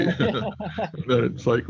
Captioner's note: laughing